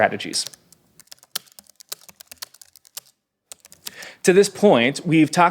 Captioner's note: typing on a keyboard